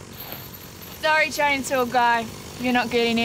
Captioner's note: chain rattles